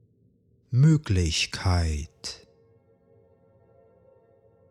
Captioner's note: german